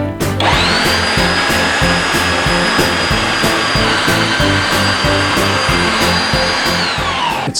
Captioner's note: horrendous mincer noise